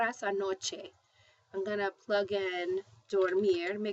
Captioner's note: spanish